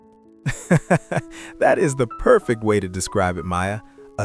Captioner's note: laughs